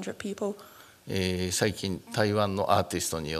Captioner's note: speaking japanese